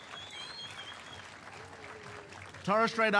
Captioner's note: cheering and applause